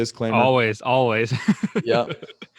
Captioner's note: laughs